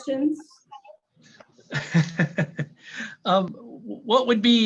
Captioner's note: laughter